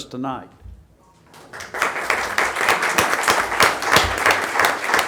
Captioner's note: audience applauding